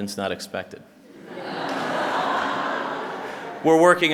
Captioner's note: laughter